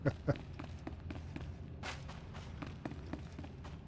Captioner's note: laughs